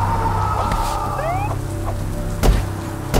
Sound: loud echoing shout; police siren WHOOP

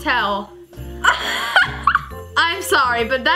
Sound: laughs

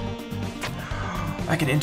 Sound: gasp of surprise

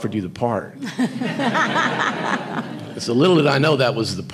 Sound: audience laughing

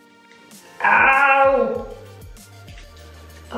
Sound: more pained noises

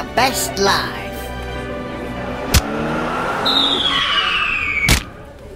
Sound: car sounds, thud sound, screech sound, sound of man hitting pavement

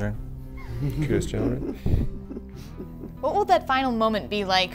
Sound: laughter

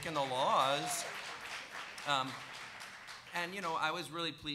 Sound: audience cheering and applauding

